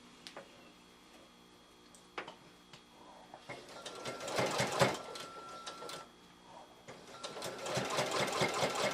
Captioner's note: sewing machine noise